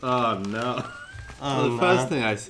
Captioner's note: laughs